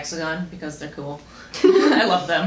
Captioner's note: laughter